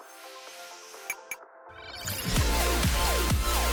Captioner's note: light beeps; upbeat music